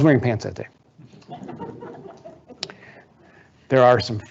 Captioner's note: audience laughing